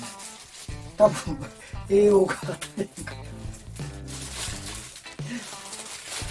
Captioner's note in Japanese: 笑い